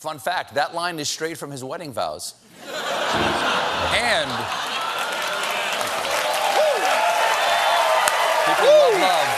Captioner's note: cheers and applause